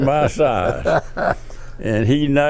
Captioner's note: laughs